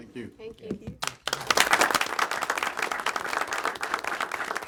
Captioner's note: applause